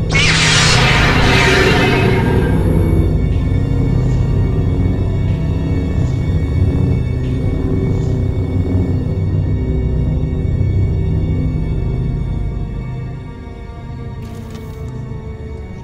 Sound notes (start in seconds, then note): 0.0 Lightsaber ignition and lightning strikes; 14.2 click